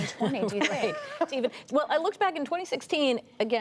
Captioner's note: laughter